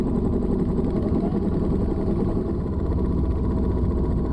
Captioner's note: engine noise